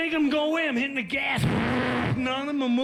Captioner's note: imitates engine revving